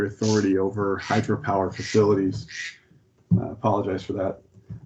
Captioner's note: cell phone vibrates